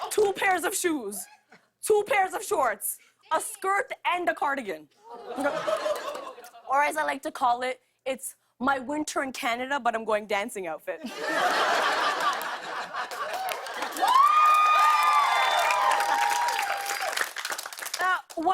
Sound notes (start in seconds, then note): 11.0 laughter; 11.9 cheers and applause